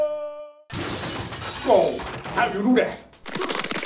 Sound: crash

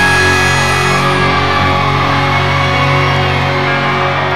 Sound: audience cheering

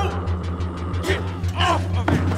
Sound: sobbing

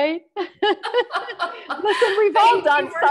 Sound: both laughing

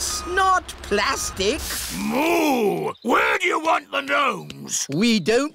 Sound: boos

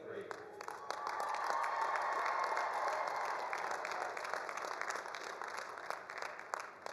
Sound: all applauding; all cheering

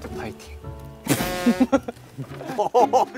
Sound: crack up

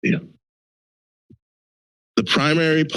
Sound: silence

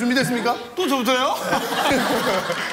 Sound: laugh

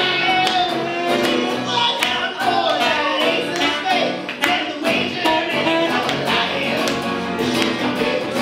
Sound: howls

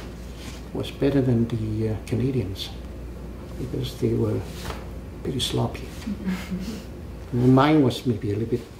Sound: laugh

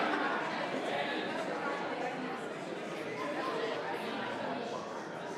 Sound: members laughs; members chattering

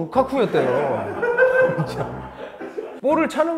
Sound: bursts into laughter

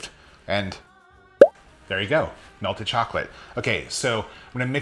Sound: popping effect

